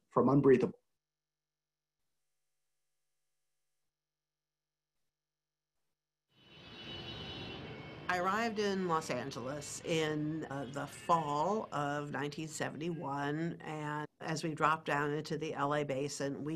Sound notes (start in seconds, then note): 6.4 traffic